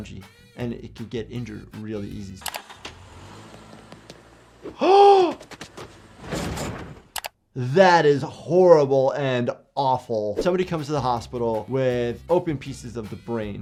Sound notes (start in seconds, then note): 2.6 car engine revving; 4.6 gasps